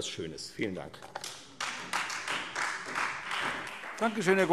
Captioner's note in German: Beifall Freie Demokraten und vereinzelt SPD